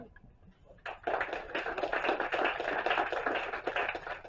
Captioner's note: applause